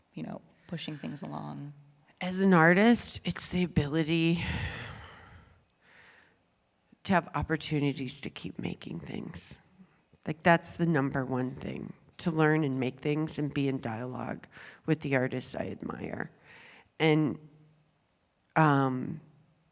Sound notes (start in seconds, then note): 4.4 sighs